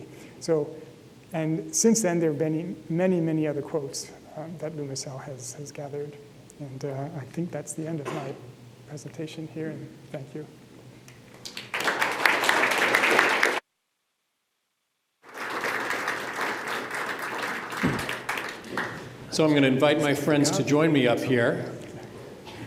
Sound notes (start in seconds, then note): 11.4 applause